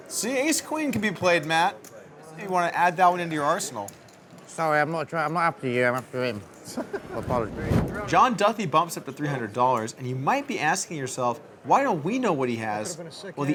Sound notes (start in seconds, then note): 6.6 laughing